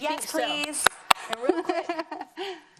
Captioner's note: clapping